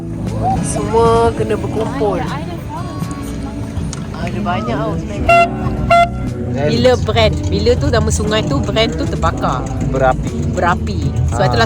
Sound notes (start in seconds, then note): 0.0 background music; 5.2 air horn sound